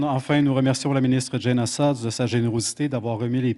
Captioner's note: speaking French